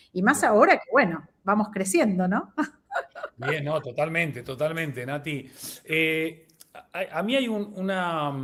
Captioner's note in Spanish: risas